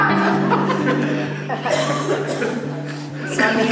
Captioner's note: laughter